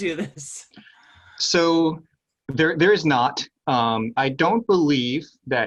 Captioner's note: laugh